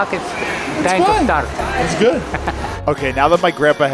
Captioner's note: chuckles